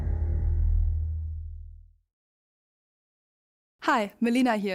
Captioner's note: transition sound